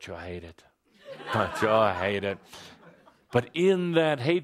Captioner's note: laughter